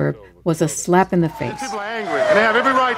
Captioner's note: soundbite of archived recording